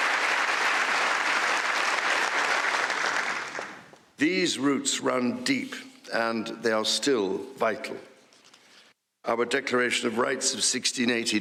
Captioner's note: applause